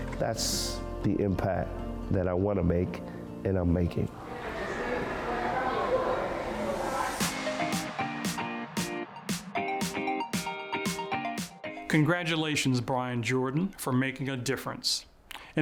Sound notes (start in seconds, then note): 4.2 people chattering; 7.1 upbeat music